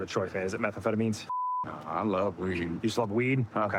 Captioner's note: none